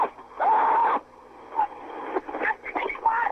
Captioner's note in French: cris horrifiés